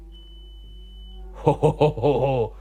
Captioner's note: light beeps